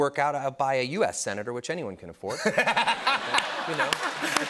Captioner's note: laughter and applause